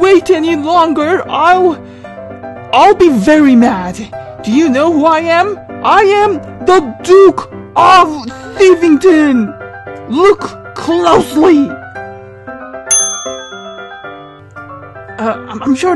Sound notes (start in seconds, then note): 12.8 ding